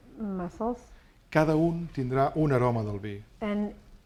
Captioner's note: speaking spanish